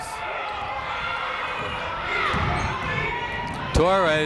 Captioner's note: people shouting in the crowd